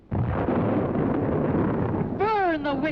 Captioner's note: thunder rumbling